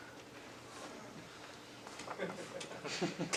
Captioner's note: audience laughs